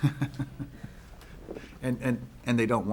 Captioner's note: chuckles